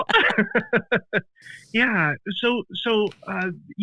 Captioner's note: laughs